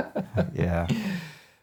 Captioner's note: both laughing